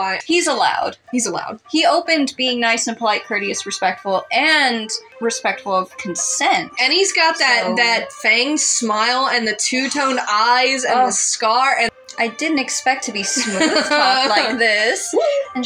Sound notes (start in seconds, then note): 11.5 swoon; 13.2 laugh